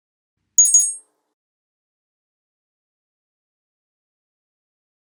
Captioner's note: ringtone plays loudly